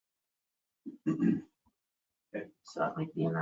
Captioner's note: male clears throat